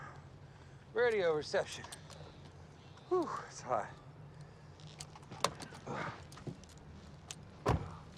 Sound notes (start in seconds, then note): 5.7 Jason groans